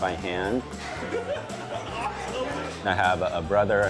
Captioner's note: laughing